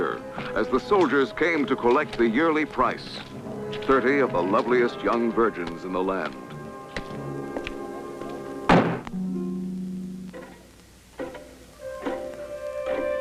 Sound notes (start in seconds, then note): 8.7 banging; 9.1 foreboding music